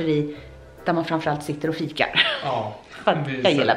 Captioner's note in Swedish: skratt